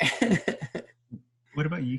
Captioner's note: laughs